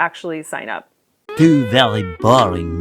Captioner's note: French accent